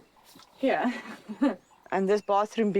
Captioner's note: laughs